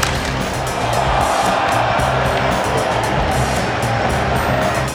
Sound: crowd cheering

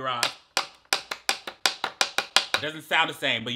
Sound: beating

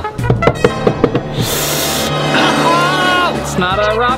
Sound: shouts; bangs the table

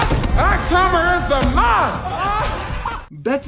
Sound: laughs

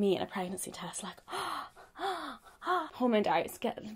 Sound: gasping

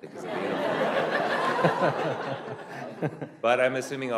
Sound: laughter

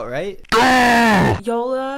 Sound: screaming

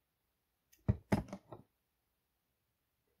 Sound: places bottle down

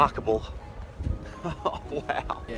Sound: laughing

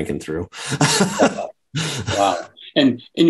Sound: chuckles

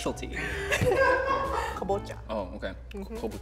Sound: laughing

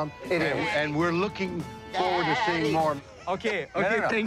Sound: mimics goat sounds

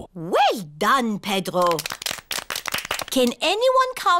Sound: all clap

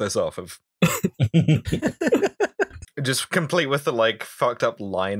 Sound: laughter

